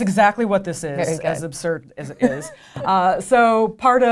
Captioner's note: laughs